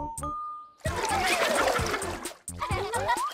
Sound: water splashing; laughter

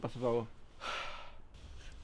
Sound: sigh

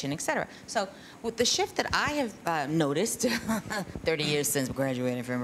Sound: chuckles

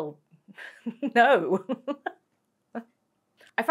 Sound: laugh

